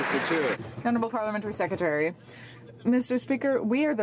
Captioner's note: some Applause